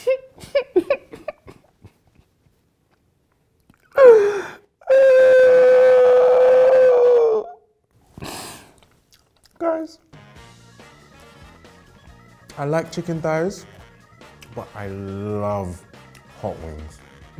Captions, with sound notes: (laughs and cries) (cries) Guys. I like chicken thighs, but I love hot wings.